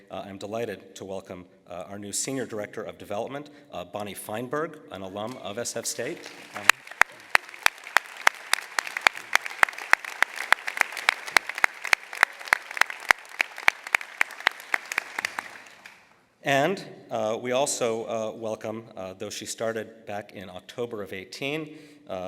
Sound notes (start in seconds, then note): 5.8 applause